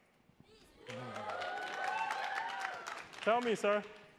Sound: attendees applauding

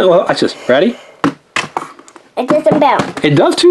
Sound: ball thuds

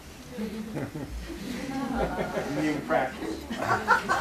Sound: laughter

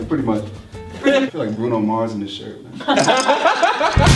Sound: laughs

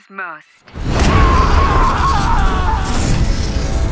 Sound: screaming

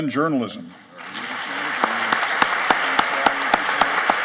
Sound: applauding

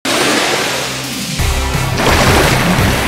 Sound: splash

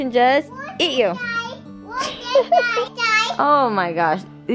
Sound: yelling playfully

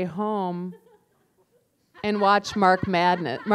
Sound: laughter

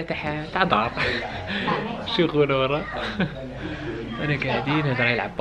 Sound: giggles

